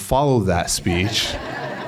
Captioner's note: laughter